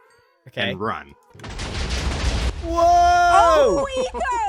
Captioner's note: many explosions